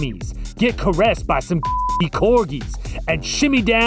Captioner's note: beep